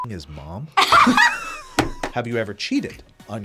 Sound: laughs

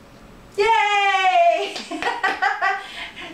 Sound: clapping; laughter

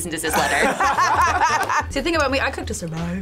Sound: group laughs

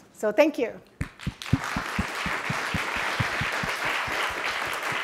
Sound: audience clapping

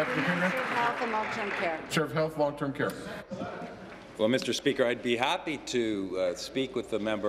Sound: applause

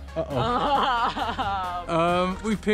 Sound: laughs

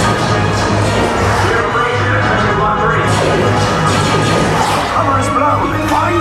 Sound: laser blaster noises'

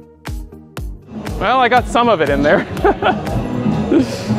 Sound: laughs

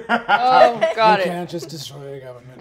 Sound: laughing

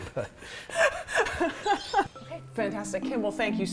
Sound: laughs

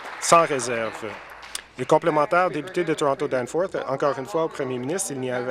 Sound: applause

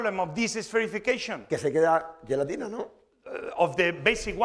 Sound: speaking spanish

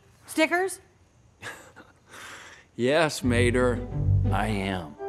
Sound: laughs

